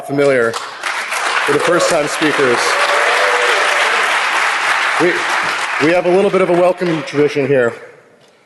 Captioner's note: applause